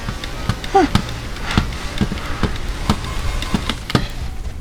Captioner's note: intense mouse movement